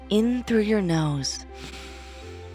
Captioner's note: inhales